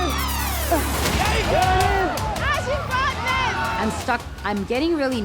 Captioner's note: crowd cheering; dramatic music